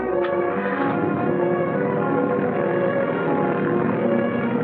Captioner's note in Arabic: هدير القارب